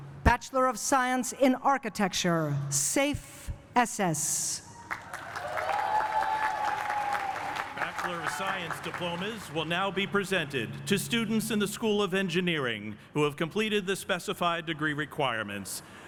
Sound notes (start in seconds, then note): 4.8 cheering and applause